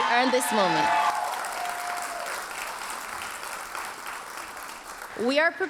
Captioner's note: audience cheers and applauds